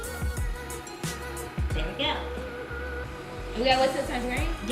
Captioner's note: machine whirring